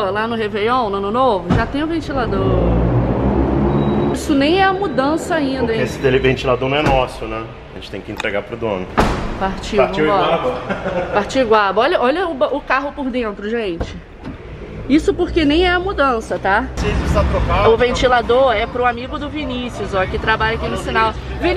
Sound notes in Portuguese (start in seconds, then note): 10.2 risos